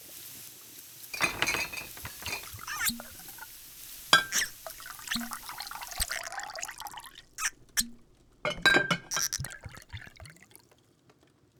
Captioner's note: bottles clink and corks squeak as you both decant the potion